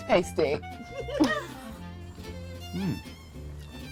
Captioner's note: laughs